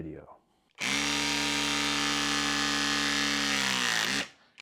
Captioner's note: power tool buzzing